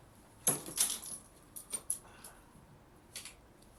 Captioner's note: bag clatters